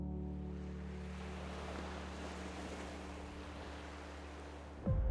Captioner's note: waves crashing against the shore; tender piano, water current